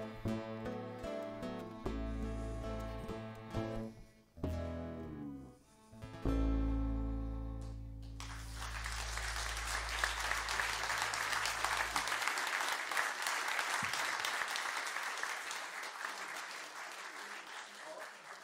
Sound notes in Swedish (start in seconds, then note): 8.1 applåder